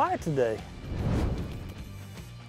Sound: air whooshing

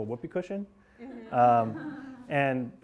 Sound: class laughing

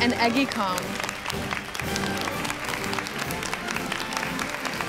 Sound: students clapping

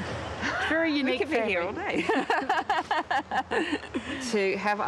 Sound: laughter

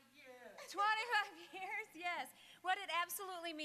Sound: laughing

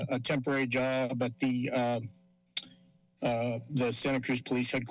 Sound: clicks tongue

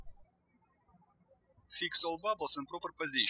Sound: birds chirping

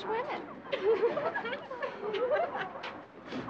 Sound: giggling

